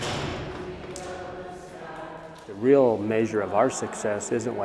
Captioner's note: door clicking